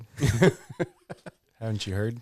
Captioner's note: laughing